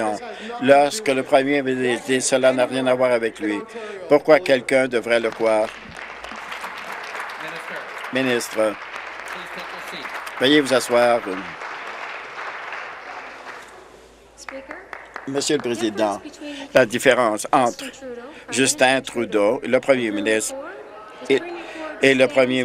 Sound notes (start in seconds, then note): 7.3 some Applause